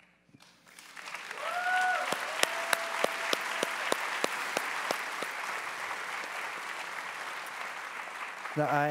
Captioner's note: audience applause